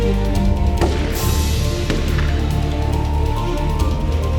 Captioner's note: guns firing